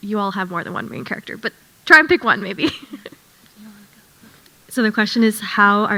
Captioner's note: chuckles